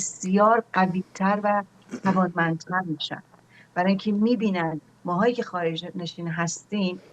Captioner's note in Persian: گلویش را صاف می‌کند